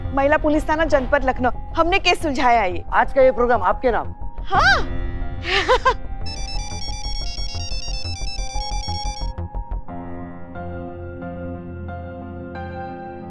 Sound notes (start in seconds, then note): 5.5 chuckling; 6.2 phone ringing